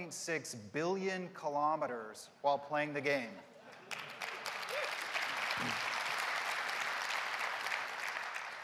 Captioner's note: applause and Cheering